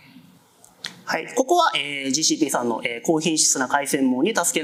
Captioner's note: speaking japanese